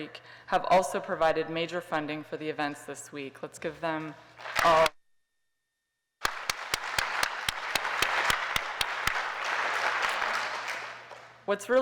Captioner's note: applause